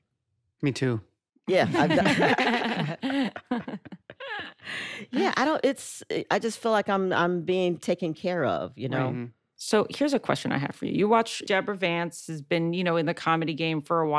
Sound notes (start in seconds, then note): 1.5 laughter